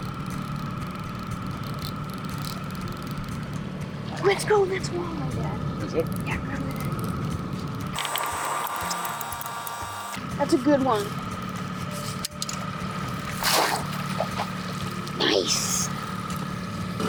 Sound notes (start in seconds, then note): 0.2 reel whining; 13.3 net splashing